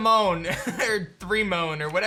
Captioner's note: laughs